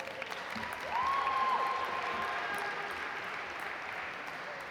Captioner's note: audience applaud